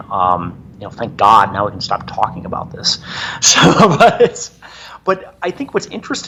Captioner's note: laughing